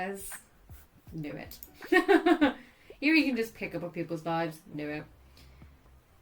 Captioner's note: laughs